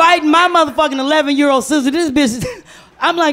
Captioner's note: laughs